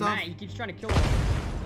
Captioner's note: molotov explodes